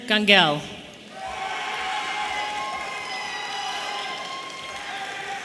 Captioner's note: audience cheering